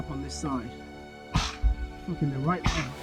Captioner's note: gunfire